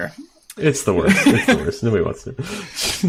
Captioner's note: laughing